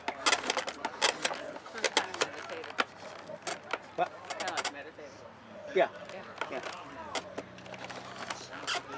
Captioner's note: scraping of Wood & Background Discussions